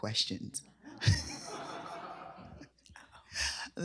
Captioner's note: laughter